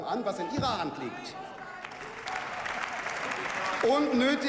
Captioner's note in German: Beifall